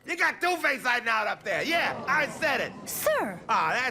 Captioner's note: shocked murmuring